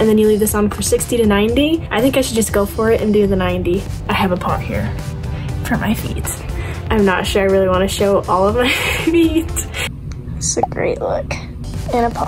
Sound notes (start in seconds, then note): 8.6 laughs